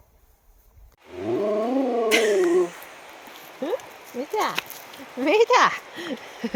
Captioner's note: dog howls